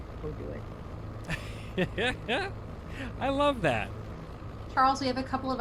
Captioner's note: laughs